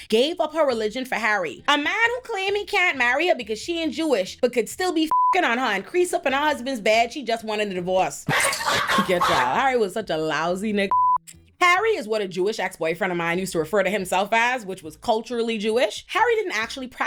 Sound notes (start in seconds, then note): 5.1 beep; 8.3 audience laughing